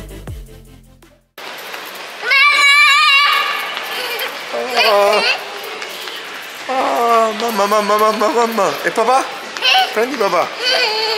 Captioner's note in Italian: Applauso